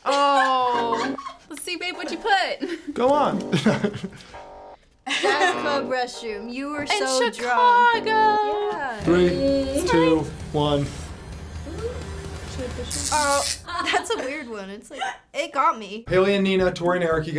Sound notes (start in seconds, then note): 3.4 laughs; 5.3 buzzer rings; 13.4 electricity crackles